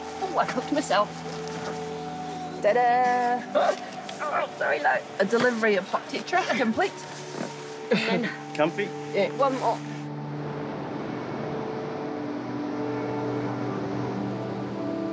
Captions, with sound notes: Ooh, I've clipped myself. Ta-da! (GROANS) Sorry, love. A delivery of hot tetra complete. Comfy? Yeah. One more. (HOPEFUL MUSIC)